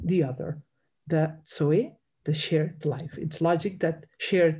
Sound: speaks in Greek

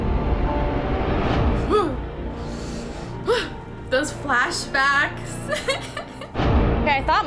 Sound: giggles

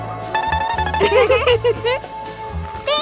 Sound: laughing

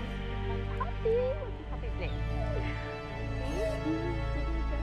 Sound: dog whining

